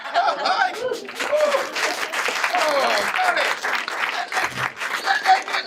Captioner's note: audience applauding